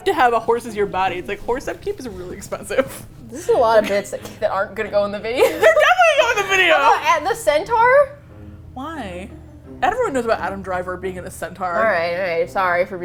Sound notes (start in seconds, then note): 2.5 laughs; 5.5 indignantly